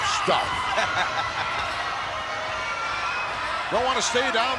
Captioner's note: laughing